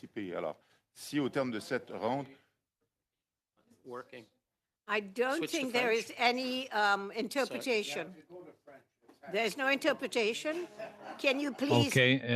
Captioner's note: speaking French